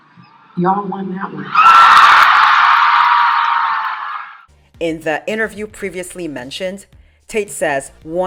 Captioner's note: cheers from audience